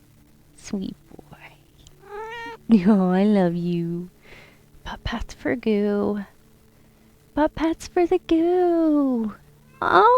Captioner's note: meow